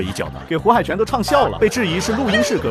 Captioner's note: laughs